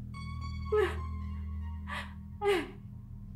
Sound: sobbing

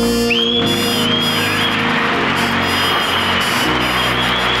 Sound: audience cheering

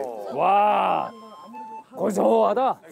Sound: exclaiming

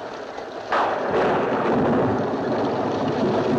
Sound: thunder crashing

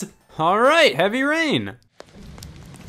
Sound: rain sprinkling

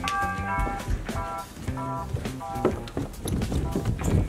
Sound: doorbell ringing

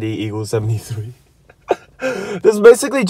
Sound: chuckles

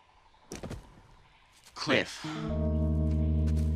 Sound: muffled impact sound

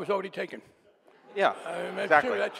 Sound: audience laughing

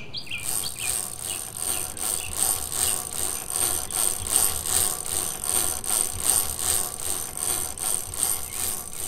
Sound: chain cranking

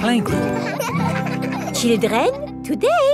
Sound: children laughing

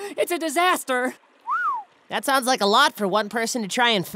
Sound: whistles

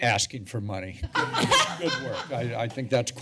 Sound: laughing

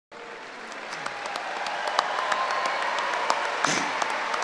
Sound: cheering and applauding

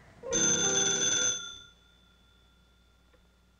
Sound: phone ringing

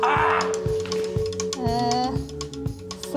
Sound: Munya screams

